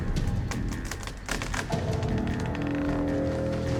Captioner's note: crackling